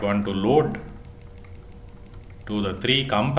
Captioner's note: timer